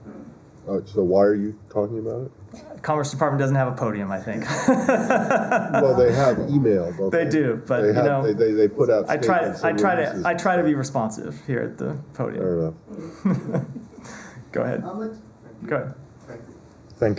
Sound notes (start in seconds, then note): 4.4 laughter; 12.9 laughter